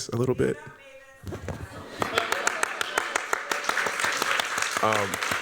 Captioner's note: applause